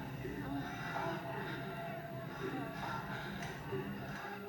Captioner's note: people moaning